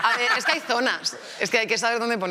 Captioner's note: they laugh